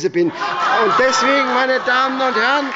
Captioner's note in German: Heiterkeit bei dem BÜNDNIS 90/ DIE GRÜNEN